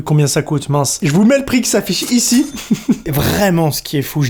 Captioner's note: laughs